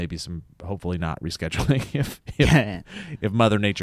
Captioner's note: laughs